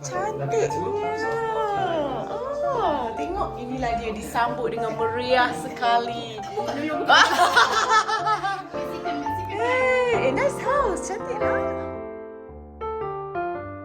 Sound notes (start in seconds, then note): 6.5 laugh; 13.6 background music